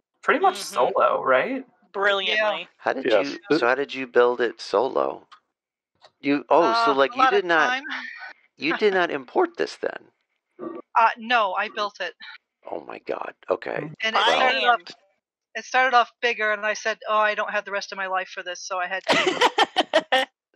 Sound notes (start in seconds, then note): 6.2 laughs; 19.0 laughter